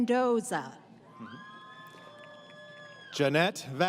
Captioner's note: crowd Cheering